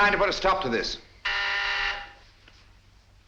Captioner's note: buzzer